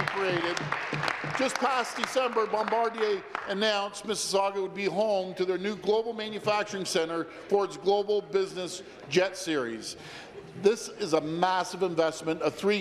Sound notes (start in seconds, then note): 1.9 applause